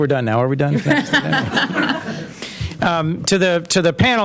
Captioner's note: laughter